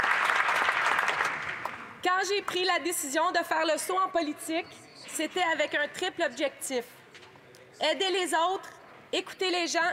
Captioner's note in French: applaudissements